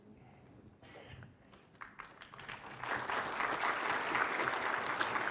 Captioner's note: applause